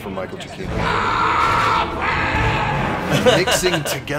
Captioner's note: frustrated yell